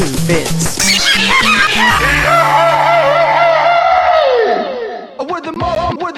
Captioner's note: peppino screm